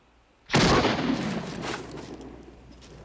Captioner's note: gunshot